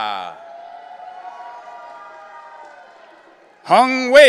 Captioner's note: audience cheering